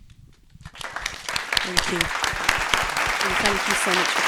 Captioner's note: applause